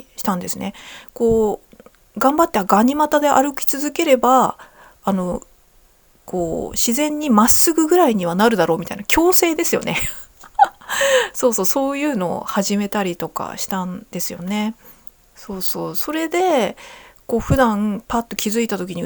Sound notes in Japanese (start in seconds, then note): 10.0 笑い; 10.8 息をのむ音